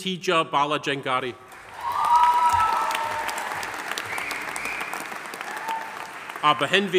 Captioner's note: audience applauding; audience cheering